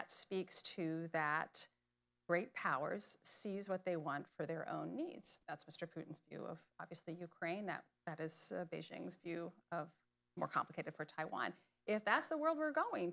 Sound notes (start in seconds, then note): none